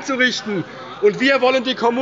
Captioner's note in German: Zurufe von der CDU